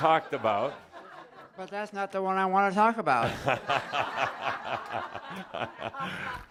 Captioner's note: laughter and Adamus is chuckling